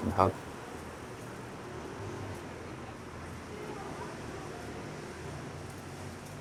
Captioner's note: busy street. sounds of traffic and people